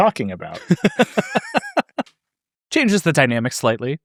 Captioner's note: laugh